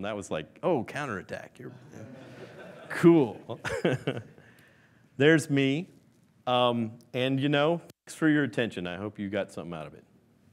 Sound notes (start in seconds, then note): 1.7 laughing; 4.7 laughs